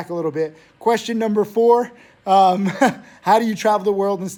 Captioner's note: Tim laughs